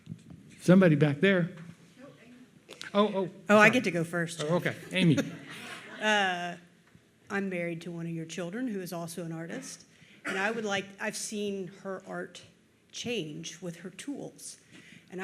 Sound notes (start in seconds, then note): 4.9 audience laughs